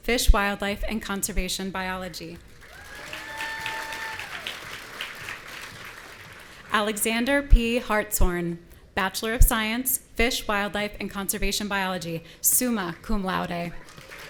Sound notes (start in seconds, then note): 2.6 audience cheering; 13.9 audience cheering